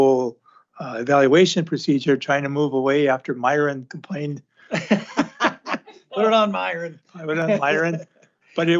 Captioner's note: laughter